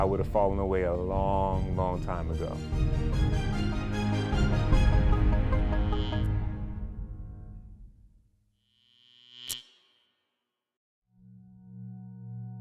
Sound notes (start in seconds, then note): 4.0 musica inspiradora; 9.5 radio